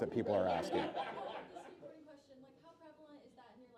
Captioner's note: laughing